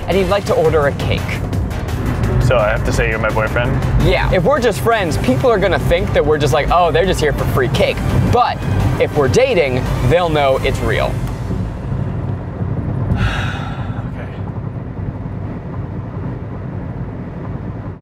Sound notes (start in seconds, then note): 13.1 sighs